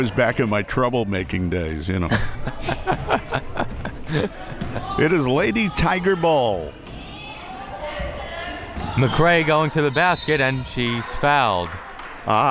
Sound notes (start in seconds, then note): 2.0 both laughs; 9.8 whistle